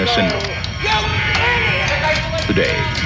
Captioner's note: person screaming